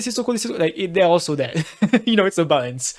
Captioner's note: laughs